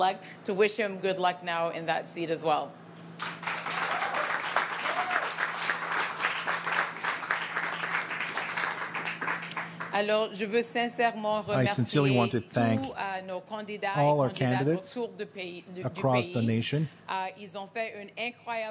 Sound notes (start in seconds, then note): 6.7 applause; 13.5 speaking French